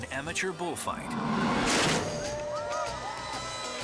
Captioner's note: gate smashes; spectators cheering